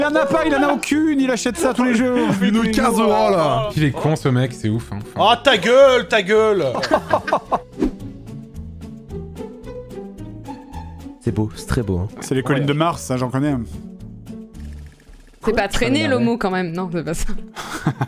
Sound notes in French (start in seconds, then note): 2.5 accent du sud; 6.5 JDG et Horty rient